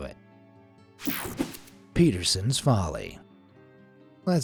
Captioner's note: cartoon swoosh